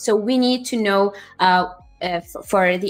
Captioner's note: none